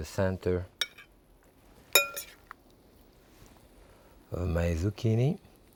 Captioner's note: spoon clinking